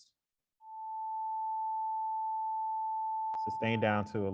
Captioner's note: rising tone sound plays